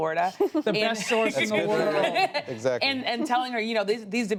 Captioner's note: laughter